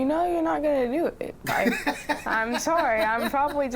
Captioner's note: laughs